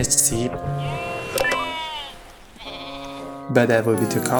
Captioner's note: high-tech bleep + sheep sound